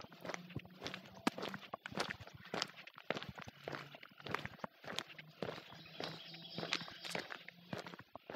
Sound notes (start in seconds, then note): 0.0 footsteps crunching on gravel